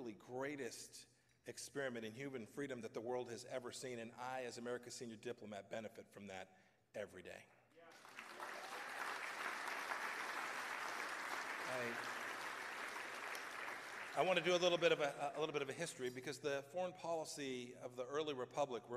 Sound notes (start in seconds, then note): 12.4 applause